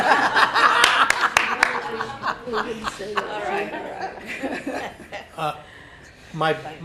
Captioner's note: laughing